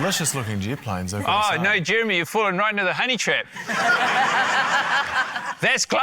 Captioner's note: laughter